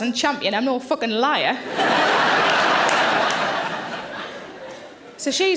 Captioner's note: audience laughing